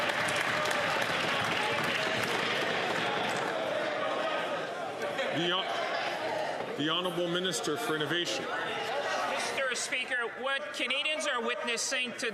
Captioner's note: some Applause